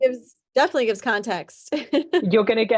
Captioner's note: laughing